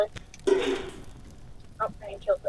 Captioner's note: boing